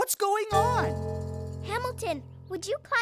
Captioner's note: deep resonance